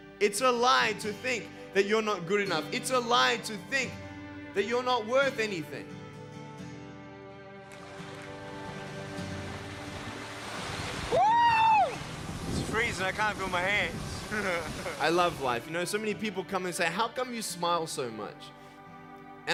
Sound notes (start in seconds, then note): 6.9 instrumental music; 7.7 splashing water